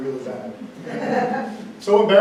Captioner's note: audience laughs